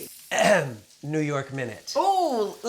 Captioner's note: clears throat